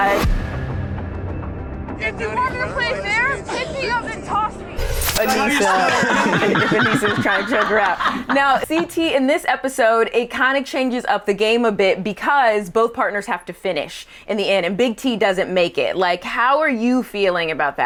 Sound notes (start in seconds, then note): 0.2 intense music; 5.2 all laughing